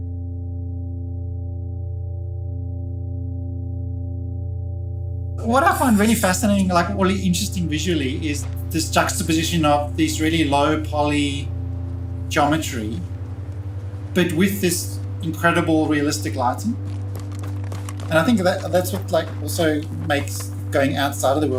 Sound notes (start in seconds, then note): 0.2 sombre music continues; 15.8 footsteps running